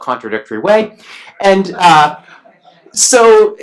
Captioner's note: laughs